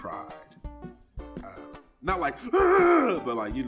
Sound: moans

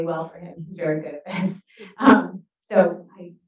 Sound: chuckles

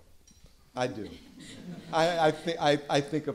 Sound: laughter

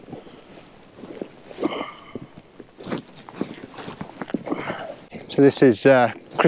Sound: breathes sharply

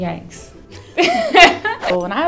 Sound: laughs

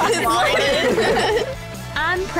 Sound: laughing

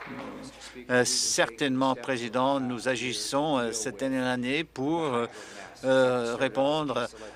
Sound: applause

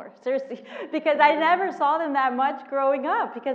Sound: laugh

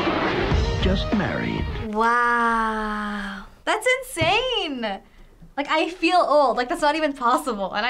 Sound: voice-over

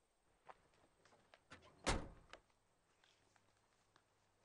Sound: closes door

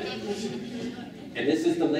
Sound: laughing

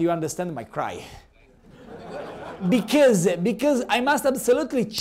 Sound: laughter

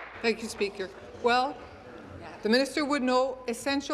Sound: applause

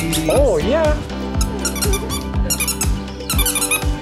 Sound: squeaky toy; laughter

